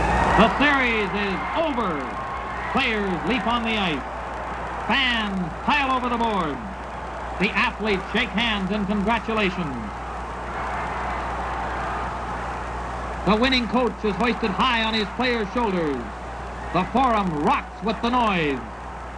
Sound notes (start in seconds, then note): 2.7 siren blares